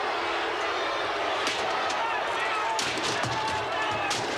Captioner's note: crowd booing